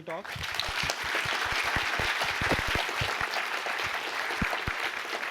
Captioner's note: applause